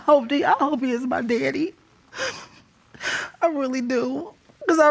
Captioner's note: sobbing